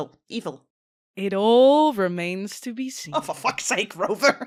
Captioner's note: audibly grinning